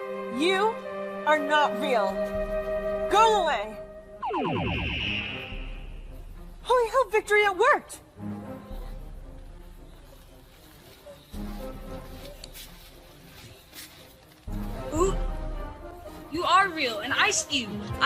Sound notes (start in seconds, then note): 4.2 wounded Beeping